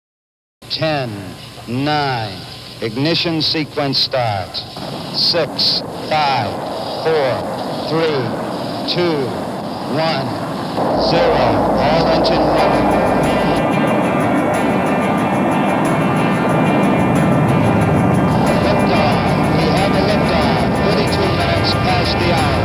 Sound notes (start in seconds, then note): 10.8 shutting roaring; 12.4 gentle guitar music